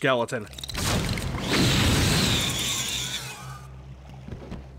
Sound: screech

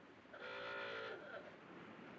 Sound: car honks outside

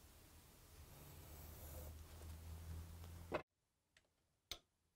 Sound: pencil softly scratching

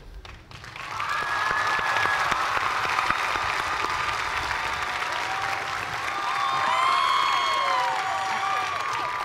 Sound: cheers and applause

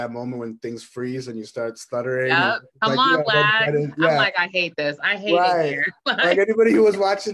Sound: laughs

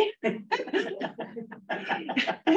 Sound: laughter

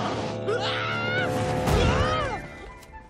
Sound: roaring; screaming

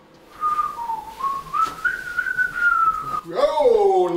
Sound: whistling

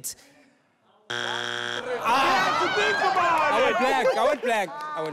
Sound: failure buzzer buzzing

